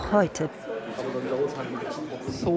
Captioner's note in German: Menschenlärm